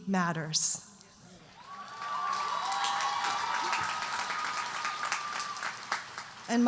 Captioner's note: audience cheering and applauding